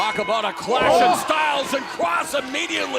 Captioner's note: crowd chatter; bell ringing